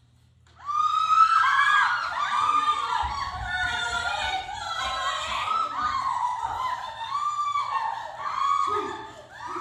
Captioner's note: cheering and celebrating